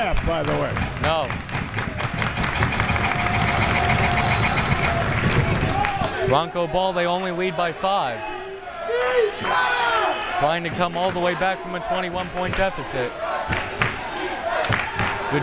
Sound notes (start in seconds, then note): 2.1 crowd members clapping; 4.0 whistle tweeting; 9.2 crowd members shouting; 13.4 crowd members chanting